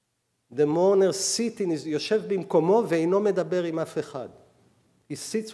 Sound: speaking hebrew; speaking hebrew

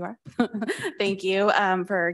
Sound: laughs

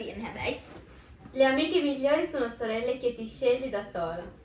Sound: speaking in Italian

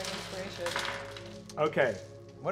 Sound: dice clattering

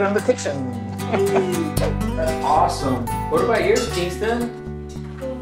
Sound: laughs

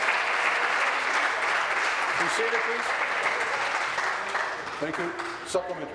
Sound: applause

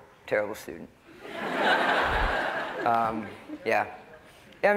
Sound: laughter

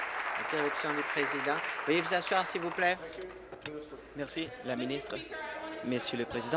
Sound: applause

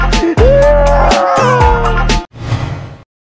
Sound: crying

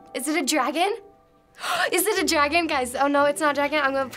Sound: gasps

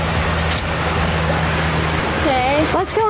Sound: camera clicking

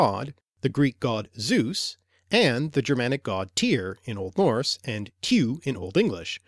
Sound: in Old Norse

